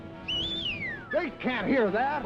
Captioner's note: whistling